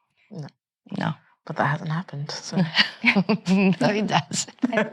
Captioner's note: chuckles